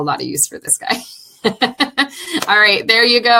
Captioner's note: laughing